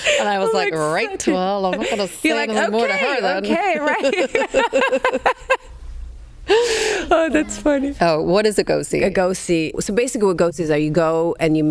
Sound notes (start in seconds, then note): 0.0 both laughing; 3.9 both laughing